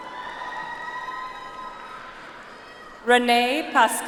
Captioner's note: audience applauds